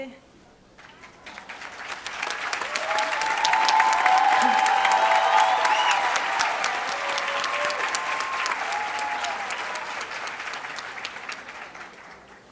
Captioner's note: speaking spanish; applause